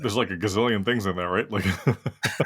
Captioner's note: laugh